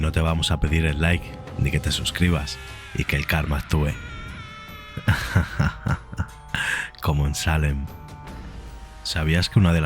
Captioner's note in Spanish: te ríes de forma terrorífica